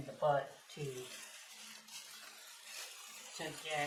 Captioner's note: sound of bubble wrap crackling